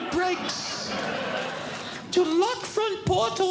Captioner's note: audience Laughing